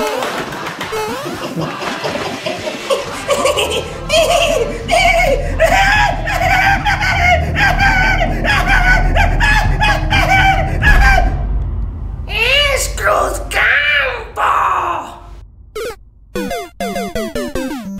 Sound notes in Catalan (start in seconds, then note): 3.2 Riure malèfic de no estar gens bé